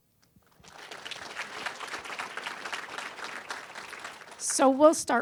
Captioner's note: applause